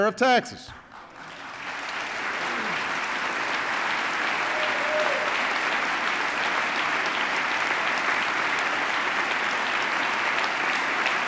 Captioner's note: applause